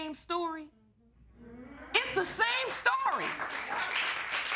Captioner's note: audience applauding